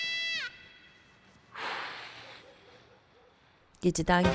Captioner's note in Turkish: Nefes sesi; Müzik - Jenerik